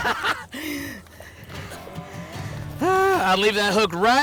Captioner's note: laughs